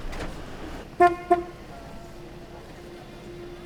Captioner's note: horn honks